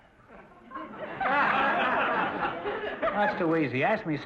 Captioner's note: audience laughter